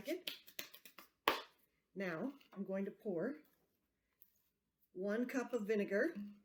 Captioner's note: claps hands to remove baking soda